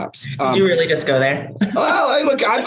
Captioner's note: laughs